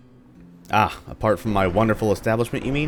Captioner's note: thunder